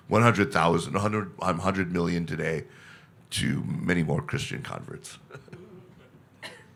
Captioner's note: laughs